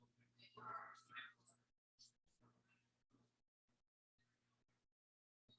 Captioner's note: people chattering indistinctly